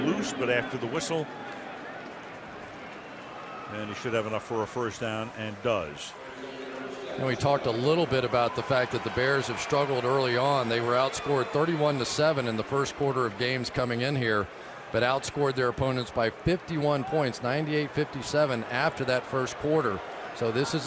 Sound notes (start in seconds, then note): 6.9 pa announcement